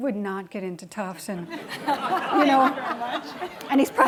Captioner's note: laughing